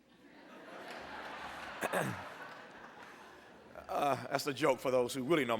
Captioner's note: laughter